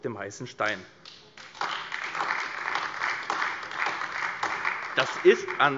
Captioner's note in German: Beifall AfD